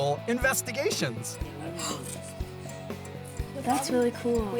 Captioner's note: upbeat music; gasping